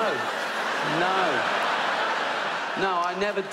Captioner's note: audience laughs